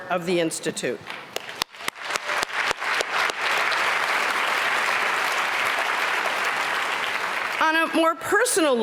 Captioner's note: applause